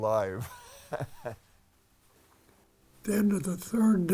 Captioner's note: chuckling